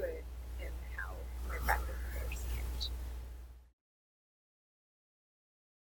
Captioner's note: mic cuts out